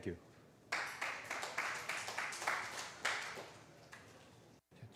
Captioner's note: applause